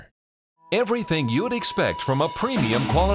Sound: voiceover

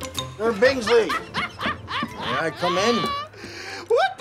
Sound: laughs

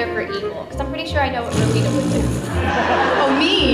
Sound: pffffftt

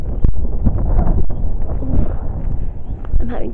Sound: wind blowing

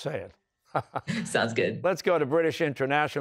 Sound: laughs

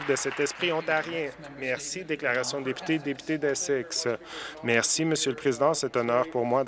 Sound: some Applause

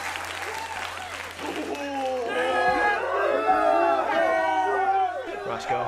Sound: audience Laughter and Applause; Audience hoots and hollers for Brodog's entry

